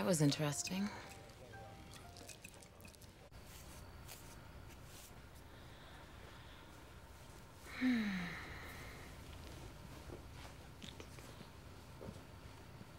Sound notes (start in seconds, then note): 7.6 sighs